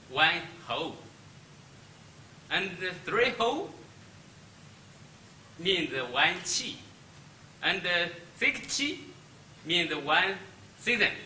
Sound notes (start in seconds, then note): 6.1 speaks Chinese